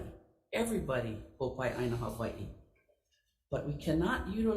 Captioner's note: speaking Hawaiian